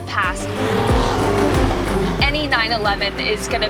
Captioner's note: engine revs